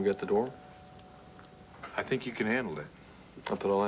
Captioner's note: doorbell rings